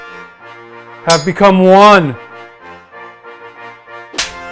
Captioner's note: slaps